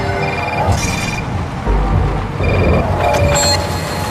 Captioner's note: cell phone ringing